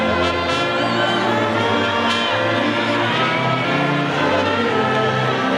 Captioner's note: audience faintly shouting